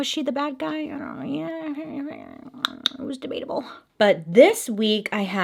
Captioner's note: muttering and clicking